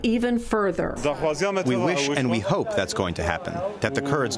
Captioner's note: through translator